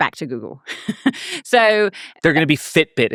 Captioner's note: laughing